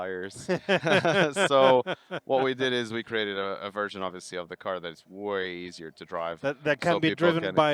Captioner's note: laughing